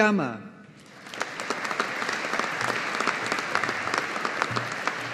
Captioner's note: audience applauding